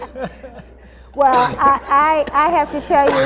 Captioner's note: laughter